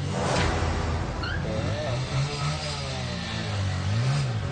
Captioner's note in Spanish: Ruido de la moto